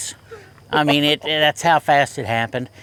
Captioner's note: chuckles